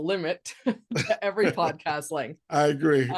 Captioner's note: both laughing